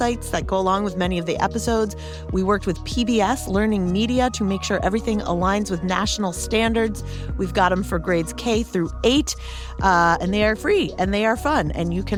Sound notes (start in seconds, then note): none